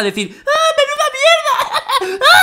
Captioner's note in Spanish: con voz de retrasado :v